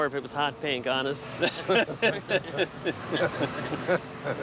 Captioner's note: laughter